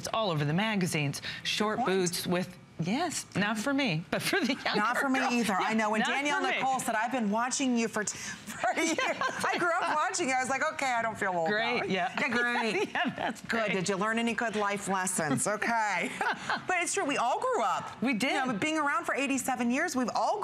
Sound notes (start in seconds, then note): 3.9 laughter